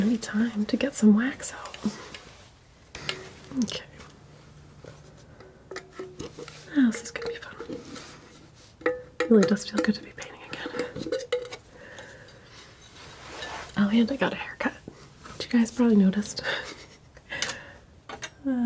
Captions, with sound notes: be time to get some wax out okay (scratching) how else is gonna be fun? really does feel good to be painting again (scratching) oh and I got a haircut which you guys probably noticed (laughing)